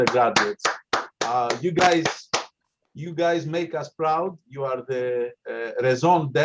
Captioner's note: applause